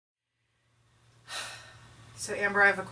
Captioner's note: sighs